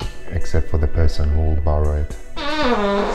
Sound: farts

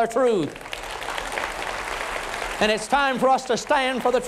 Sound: applause

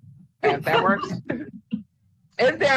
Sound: laughing

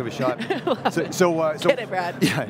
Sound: laughing loudly

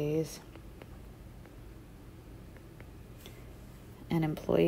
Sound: digital pen tapping noise

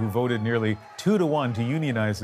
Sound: cheers and Applause

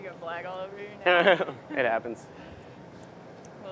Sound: laughter

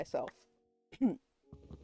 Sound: cough

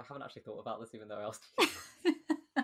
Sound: laughs

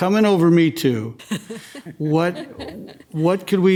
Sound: laughs

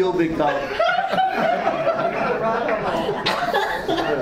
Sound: audience laughs

